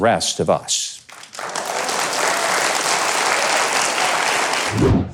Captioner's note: audience applauds